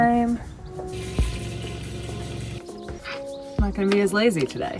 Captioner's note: water gushing